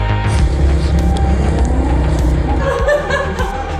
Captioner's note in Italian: vento; risate